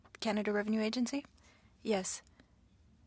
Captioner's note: speaking French